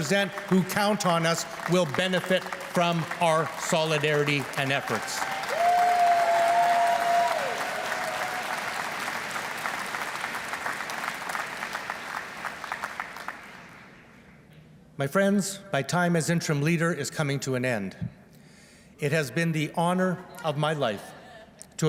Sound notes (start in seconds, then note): 7.7 applause